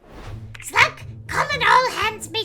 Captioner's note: whoosh